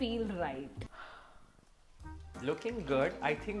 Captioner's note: sighs